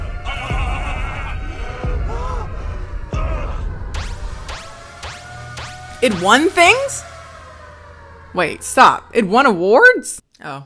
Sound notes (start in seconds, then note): 5.5 sound pops